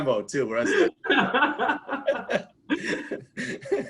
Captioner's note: laughs